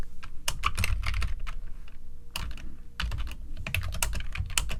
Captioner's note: keyboard clacking